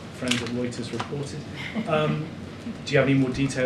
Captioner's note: laughs